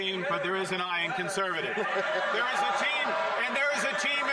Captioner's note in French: voix de l'interprète